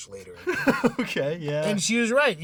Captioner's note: laughing